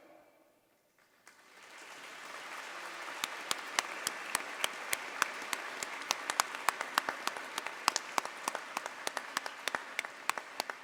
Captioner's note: applause